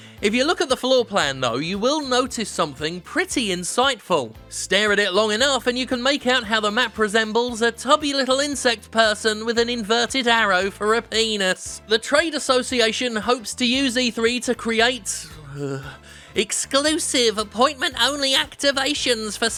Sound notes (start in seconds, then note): 15.6 groans